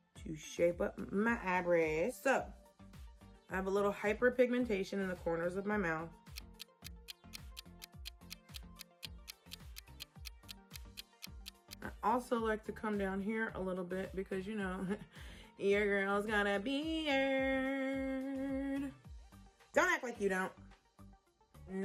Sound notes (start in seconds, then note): 6.3 timer ticking